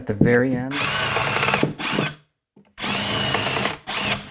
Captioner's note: tool whirring